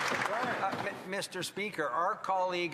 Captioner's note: applause